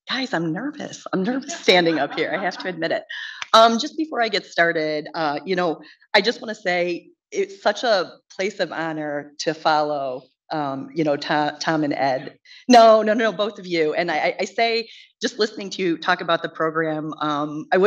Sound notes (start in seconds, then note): 1.3 woman laughs